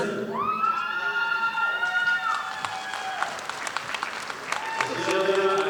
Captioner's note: audience applauding